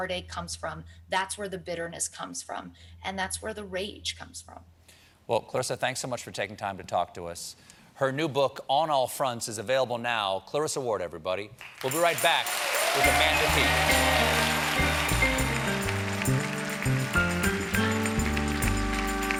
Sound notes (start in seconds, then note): 14.7 cheers and applause